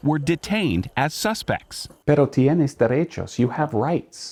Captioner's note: speaks in Spanish